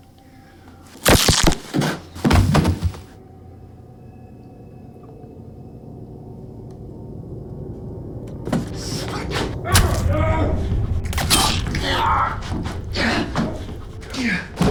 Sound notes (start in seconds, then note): 1.0 neck snapping; 9.7 flesh squishing; 11.2 Robert groaning